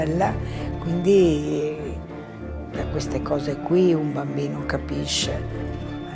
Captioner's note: continues speaking in foreign language